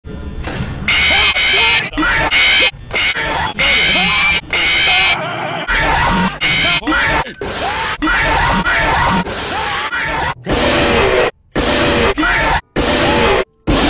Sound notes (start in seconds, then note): 0.0 screams of terror